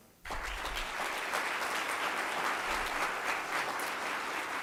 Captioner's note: applause